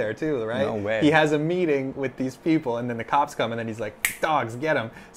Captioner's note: snap